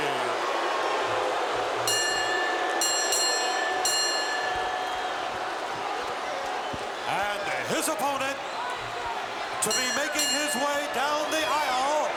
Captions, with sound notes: (crowd booing) (bell ringing) And his opponent, to be making his way down the aisle,